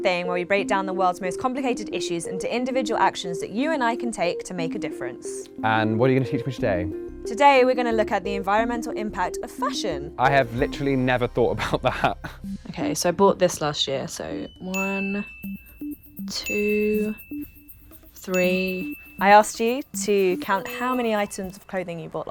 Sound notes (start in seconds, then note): 17.2 bell dings